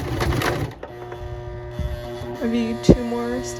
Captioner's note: sewing machine sounds